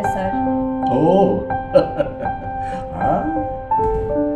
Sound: laughs

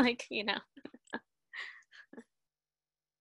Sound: laughter

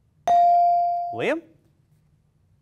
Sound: ding

